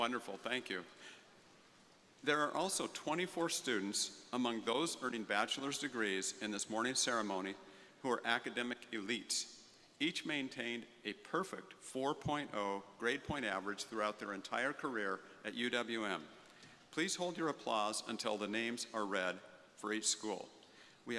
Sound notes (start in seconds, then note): none